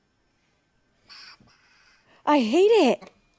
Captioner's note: alien hissing